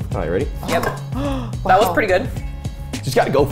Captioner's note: gasps